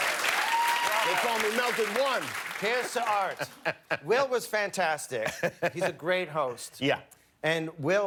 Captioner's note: cheers and applause